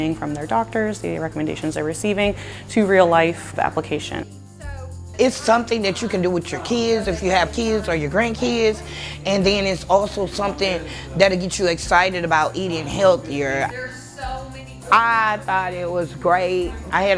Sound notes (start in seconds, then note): 14.1 background talking